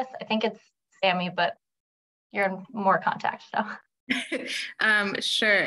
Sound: chuckles

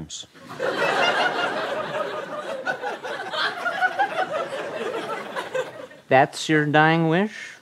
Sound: laughter

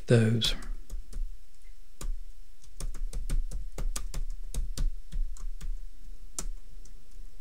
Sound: clicking

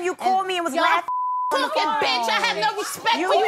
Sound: beep

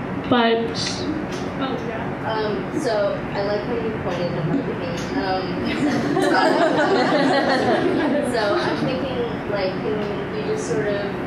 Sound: laughter

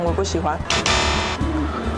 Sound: buzz

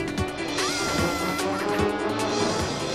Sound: giggles

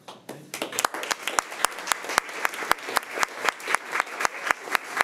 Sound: crowd clapping

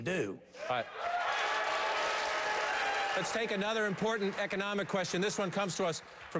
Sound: applause

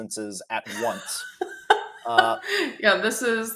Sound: laughs

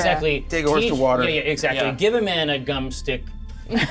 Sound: co-hosts laughing

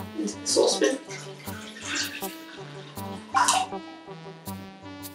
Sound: water sloshing

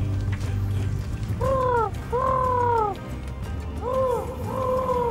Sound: imitates owl hooting

